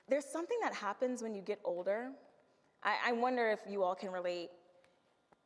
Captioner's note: none